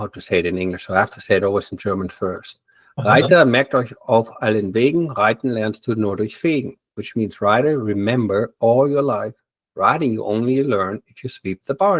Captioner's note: in German